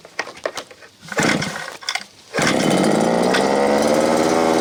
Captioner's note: engine roaring